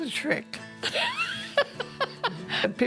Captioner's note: laughs